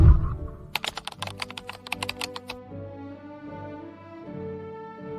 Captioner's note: whooshing sound; keyboard clicking